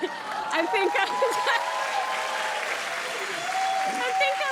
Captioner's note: cheers and applause